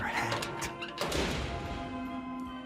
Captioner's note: door shuts; mysterious music